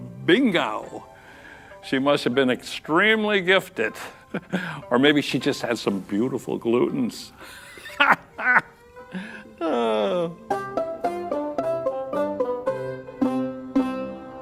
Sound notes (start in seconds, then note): 7.4 chuckling; 9.1 sigh